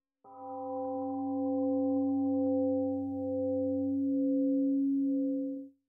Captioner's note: temple gong rings and fades